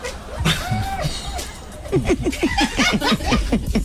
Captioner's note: laughing